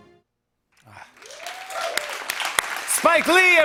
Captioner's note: applause